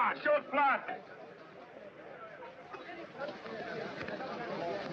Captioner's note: miners chattering